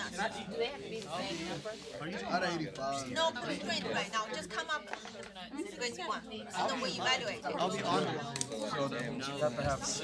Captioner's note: students murmur